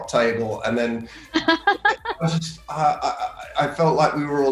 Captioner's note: Elizabeth laughing